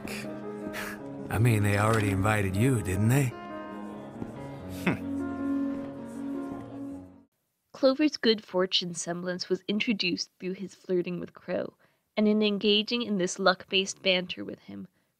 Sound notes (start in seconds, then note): 0.0 piano music begins; 4.8 Clover chuckles